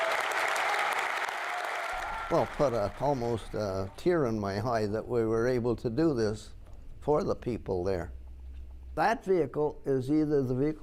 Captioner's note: applause